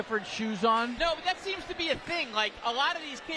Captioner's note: applause